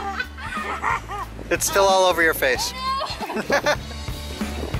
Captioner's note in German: Lachen; Lachen